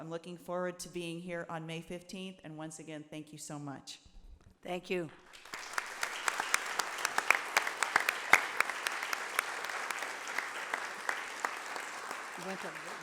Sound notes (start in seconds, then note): 5.2 audience applauding